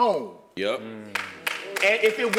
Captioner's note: applause